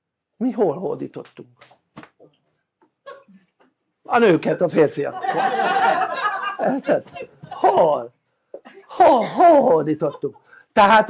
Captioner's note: laughter